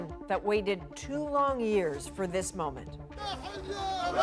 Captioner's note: cheers and Applause